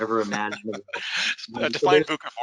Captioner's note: laughs